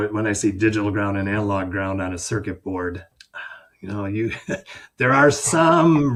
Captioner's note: chuckles